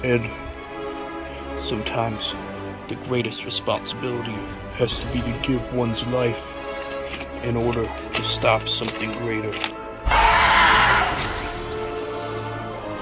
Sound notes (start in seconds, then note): 10.0 shriek